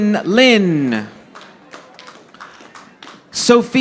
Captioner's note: audience applauding